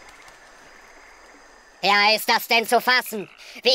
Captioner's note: Computerstimme im Kinski-Stil